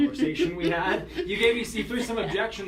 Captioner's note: laughter